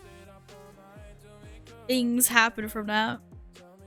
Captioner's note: makes suggestive noises